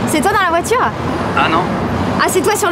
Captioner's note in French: au téléphone